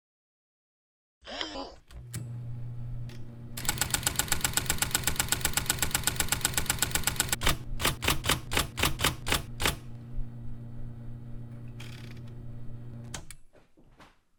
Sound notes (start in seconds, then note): 1.2 whir; 1.7 typewriter Turning On; 3.6 typewrite Spaces Repeat; 7.5 typing; 11.8 typewrite switching off